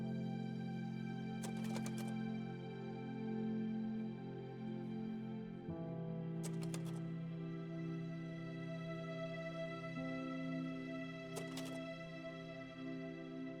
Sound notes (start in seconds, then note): 1.4 click; 6.4 click; 11.3 click